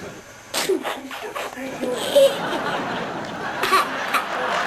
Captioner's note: giggles and laughs